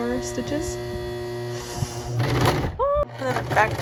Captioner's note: sewing machine sounds